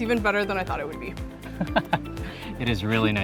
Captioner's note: laughs